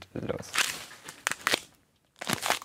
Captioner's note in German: Knacken